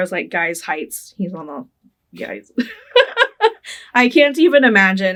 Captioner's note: laughing